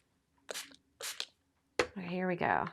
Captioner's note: sprayer hissing